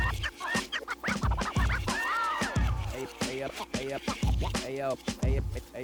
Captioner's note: laughs